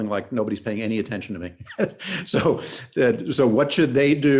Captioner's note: laughs